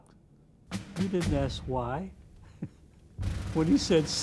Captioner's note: chuckles